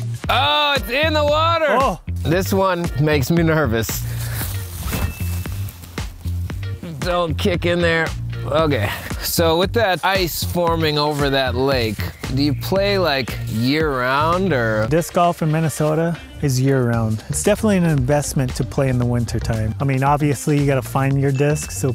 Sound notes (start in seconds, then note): 3.8 leaves rustling